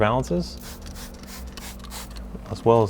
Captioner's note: spray can hissing